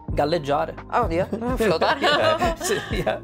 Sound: laughs

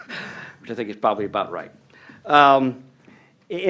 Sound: laughter

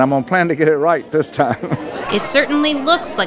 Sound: chuckles

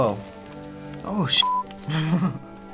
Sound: chuckles

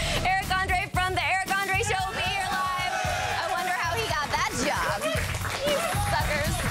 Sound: applause

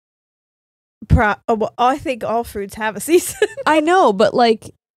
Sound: giggles

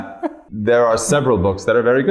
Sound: chuckles

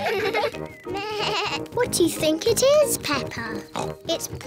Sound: bleats; oinks

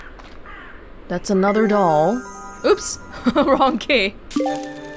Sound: chuckles

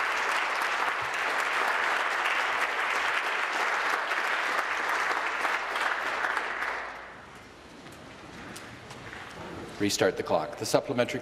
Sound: applause

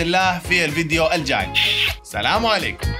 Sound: peace kisses

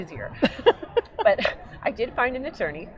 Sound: laughing

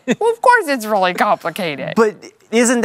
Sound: laughs

